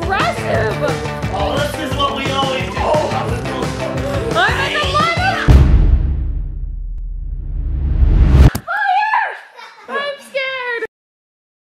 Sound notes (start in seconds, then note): 5.4 abrupt boom